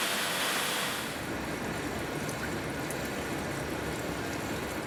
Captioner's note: liquid running